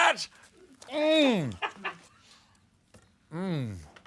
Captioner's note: laughter